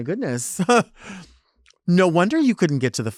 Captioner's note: speaker laughs